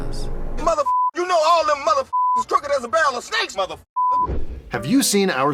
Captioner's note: beeper; beepers